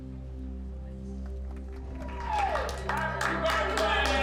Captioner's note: cheering and applause